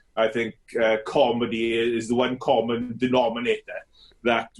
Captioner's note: none